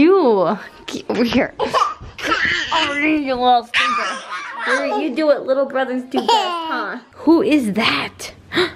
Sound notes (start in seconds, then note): 2.2 babbles